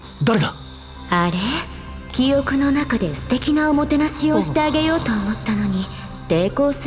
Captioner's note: sigh